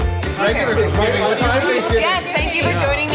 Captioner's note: guests chattering indistinctly